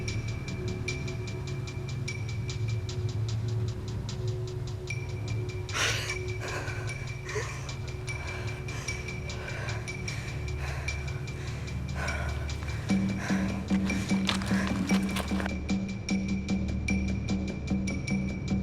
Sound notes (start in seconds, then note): 6.0 breathing heavily